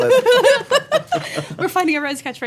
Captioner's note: laughing